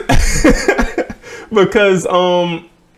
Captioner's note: laughs